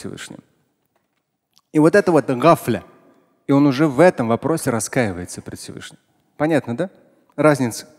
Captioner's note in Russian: говорит на арабском